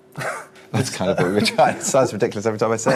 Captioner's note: laughs